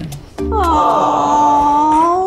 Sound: awwwwws

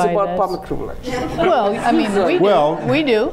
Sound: laughing

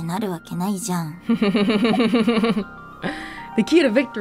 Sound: chuckles

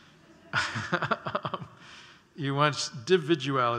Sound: laughter

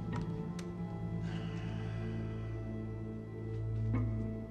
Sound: Cooper sighs

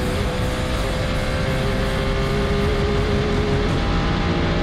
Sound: engine revving

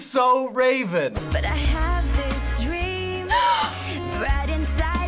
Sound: gasping

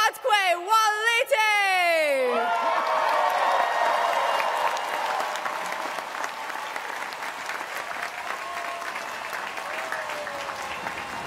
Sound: cheers and applause

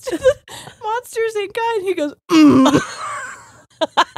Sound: grunts; both laughing

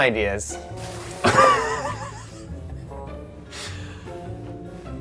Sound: laughs

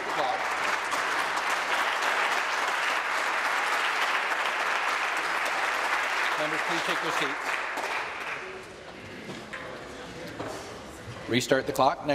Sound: applause

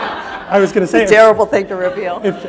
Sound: laughter

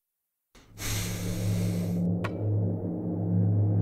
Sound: inhales

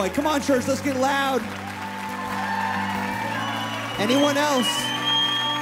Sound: applause

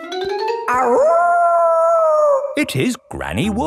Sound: kids yelling; howling

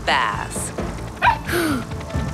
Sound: barking

